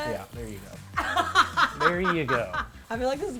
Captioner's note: laughs